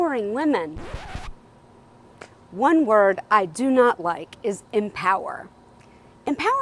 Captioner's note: record scratch